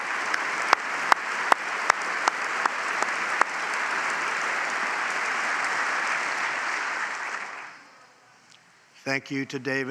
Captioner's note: applause